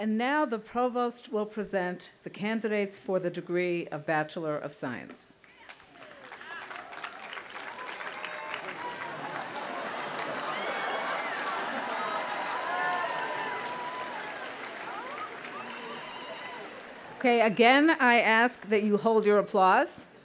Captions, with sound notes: - And now the provost will present the candidates for the degree of bachelor of science. (audience applauding) (audience laughing) Okay, again, I ask that you hold your applause.